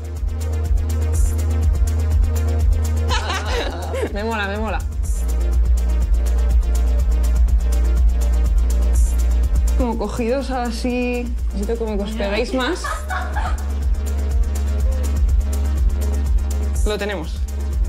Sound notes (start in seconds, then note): 0.1 electronic music; 3.0 laughs; 5.0 electronic music; 13.2 electronic music